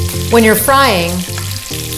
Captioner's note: sizzling